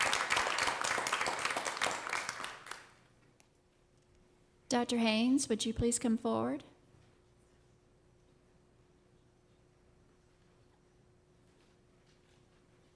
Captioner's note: applause